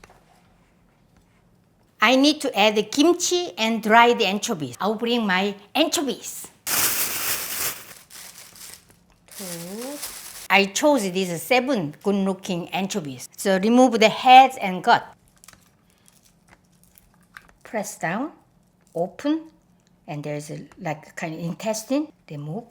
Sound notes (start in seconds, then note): 6.3 bag rustles